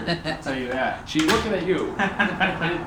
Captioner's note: both laughing; laughing